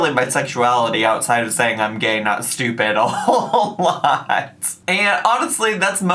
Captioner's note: laughs